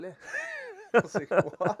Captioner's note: laughter